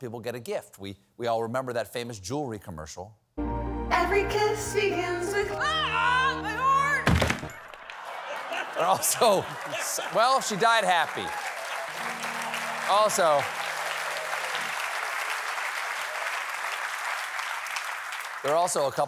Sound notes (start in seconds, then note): 9.6 sound of falling; 13.5 applause